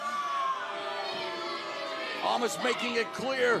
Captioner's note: cheers and boos